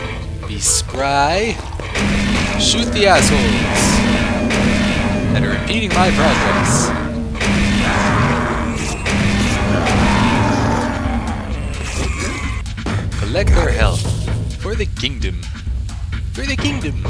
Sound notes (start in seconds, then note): 1.9 gunshots and monster roars